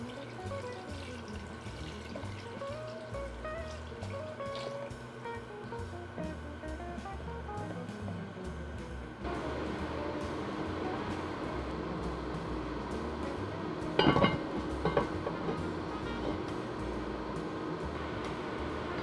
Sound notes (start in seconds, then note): 8.1 simmering